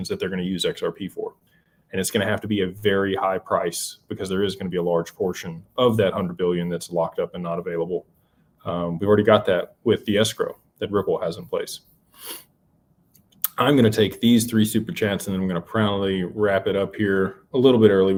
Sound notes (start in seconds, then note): 12.4 snorts